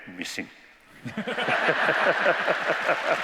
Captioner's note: laughter